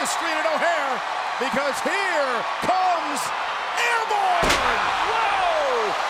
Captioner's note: crowd cheering